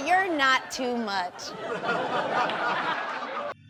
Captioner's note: audience laughing